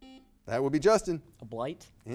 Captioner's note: buzzer beeping